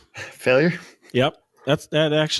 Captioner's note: chuckling